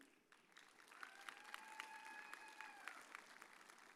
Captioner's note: audience cheers